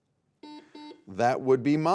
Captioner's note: buzzer beeping